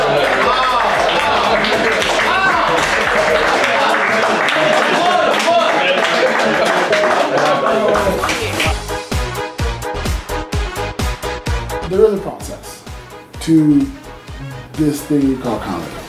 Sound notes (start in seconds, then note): 1.3 applause